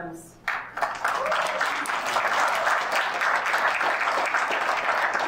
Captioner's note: audience applauding